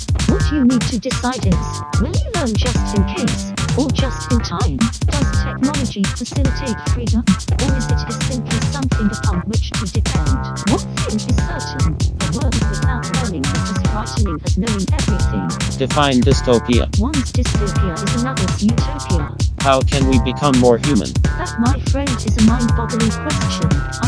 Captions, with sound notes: What you need to decide is, will you learn just in case, or just in time? Does technology facilitate freedom, or is it just simply something upon which to depend? One thing is certain a world without learning is as frightening as knowing everything [male robot voice] Define dystopia [female robot voice] One's dystopia is another's utopia [male robot voice] How can we become more human? [female robot voice] That, my friend, is a mind boggling question